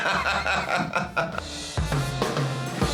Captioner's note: both laugh; upbeat music